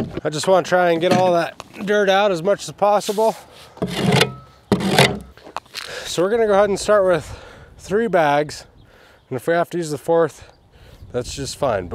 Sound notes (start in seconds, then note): 0.0 wheelbarrow clanking; 3.0 shovel scrapping; 4.7 shovel rattling